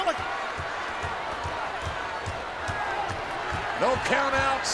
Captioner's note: audience chattering